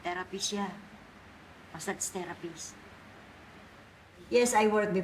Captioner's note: speaks Filipino